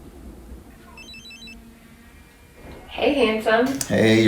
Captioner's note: phone rings